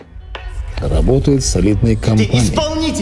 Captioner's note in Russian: Закадровый голос